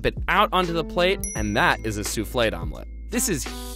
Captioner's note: dings